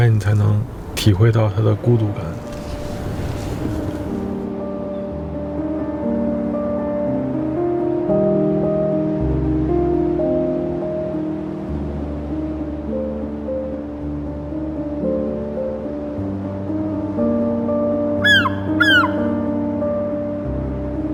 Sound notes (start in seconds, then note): 18.2 seagulls